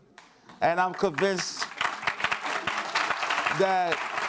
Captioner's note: audience applauds